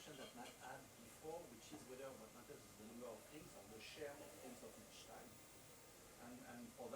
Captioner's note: faintly speaks